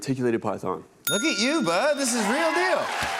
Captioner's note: bell dings